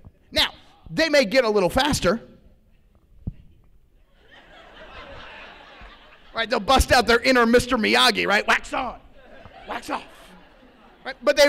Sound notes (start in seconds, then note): 4.1 laughter